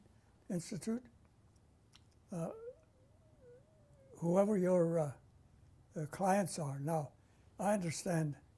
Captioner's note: pauses for 3 seconds